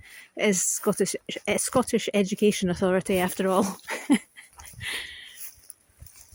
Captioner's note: laughs